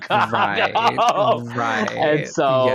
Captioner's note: laughter